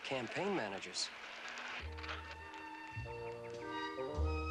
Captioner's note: tool stops whirring